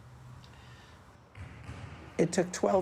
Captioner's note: basketballs bouncing